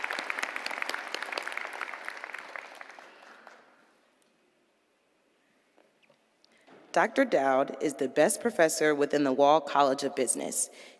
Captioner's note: applause